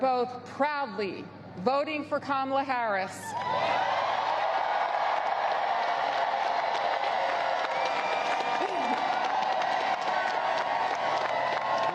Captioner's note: applause